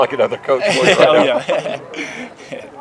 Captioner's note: laughter